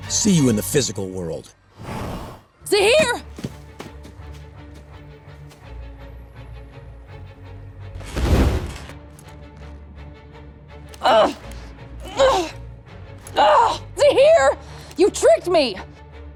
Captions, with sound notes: See you in the physical world. Zaheer! [grunting] Zaheer, you tricked me!